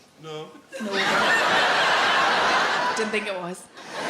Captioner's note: audience laughs